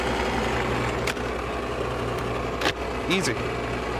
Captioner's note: machine running